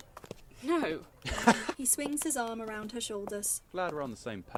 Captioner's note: he laughs